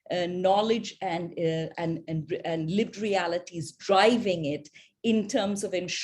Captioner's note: none